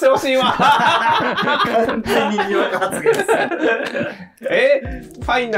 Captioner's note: laughing